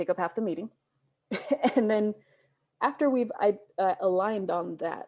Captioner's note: laughs